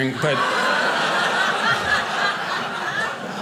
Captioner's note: audience laughing